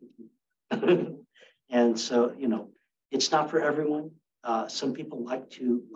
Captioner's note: laughs